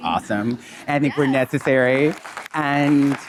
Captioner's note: audience applauding